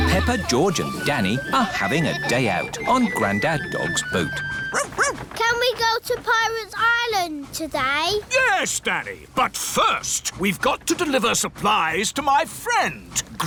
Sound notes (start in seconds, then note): 4.7 barks